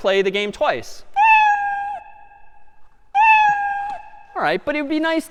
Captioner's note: میو زدن